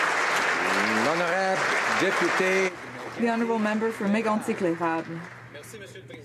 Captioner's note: applause